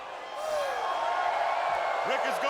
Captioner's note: audience cheering